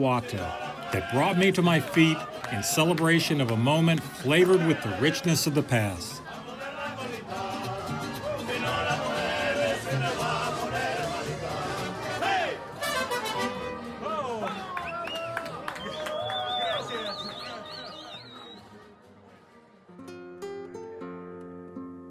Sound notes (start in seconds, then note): 6.2 all singing in Spanish; 14.0 whistles and cheers